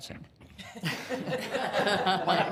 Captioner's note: all laughing